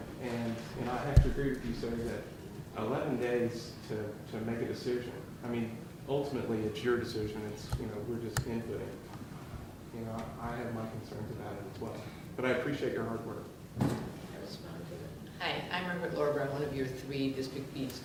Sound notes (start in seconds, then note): none